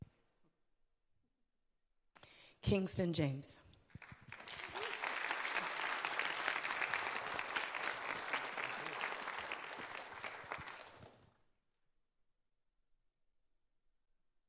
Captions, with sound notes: Kingston James. (audience applauding)